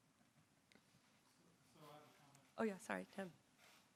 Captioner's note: man speaking off mic